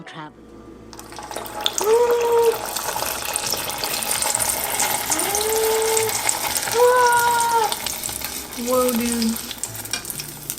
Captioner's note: giggles; gasps as oil sizzles